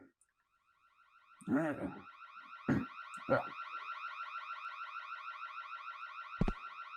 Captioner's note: grunts as he sleepwalks to the museum; alarms blare